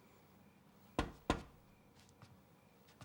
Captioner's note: knocking at door